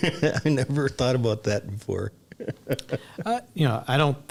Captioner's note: laughs